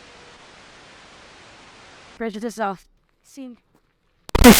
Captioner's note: electronic interference noise